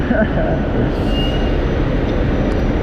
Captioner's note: laughing